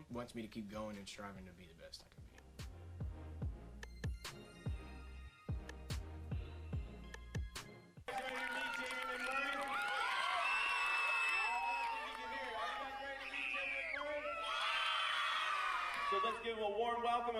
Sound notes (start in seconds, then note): 9.8 crowd cheering; 14.2 screaming